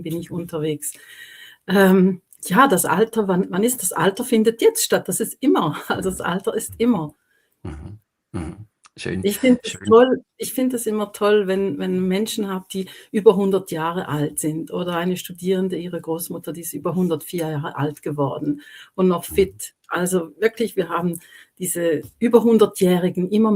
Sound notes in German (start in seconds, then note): 7.6 räuspern